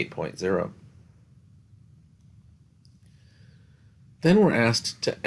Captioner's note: no Speech Detected